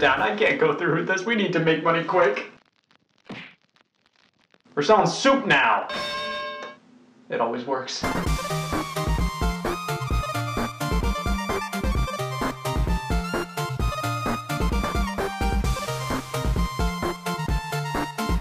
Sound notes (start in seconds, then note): 5.9 bell dinging; 8.5 upbeat music